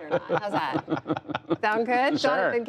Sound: laughter

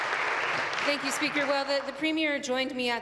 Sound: applause

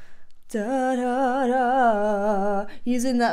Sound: humming

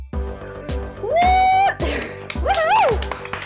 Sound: panel applauds

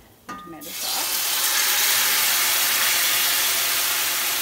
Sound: loud sizzling

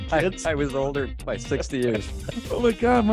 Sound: laughing

